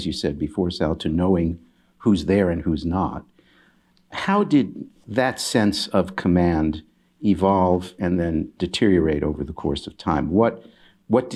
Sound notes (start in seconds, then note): none